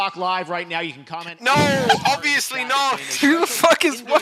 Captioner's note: laughter